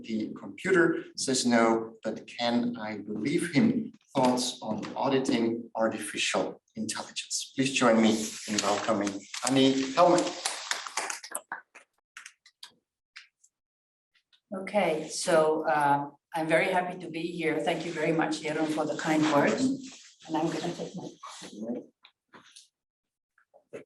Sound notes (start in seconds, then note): 10.1 applause